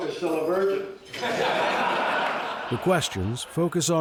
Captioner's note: audience laughing